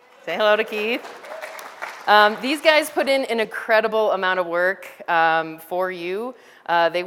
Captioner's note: background audience applause sounds